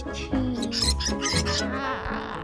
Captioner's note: SFX Rats squeaking; squeaking noises